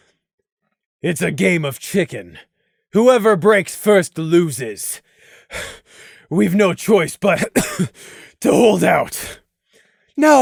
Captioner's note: cough